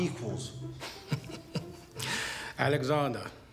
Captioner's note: laughing